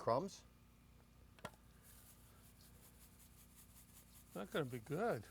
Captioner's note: breadcrumbs rattling